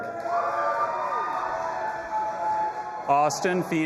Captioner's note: audience applauding and cheering